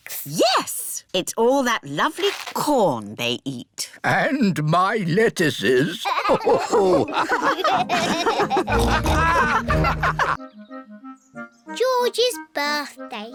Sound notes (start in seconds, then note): 5.9 all laugh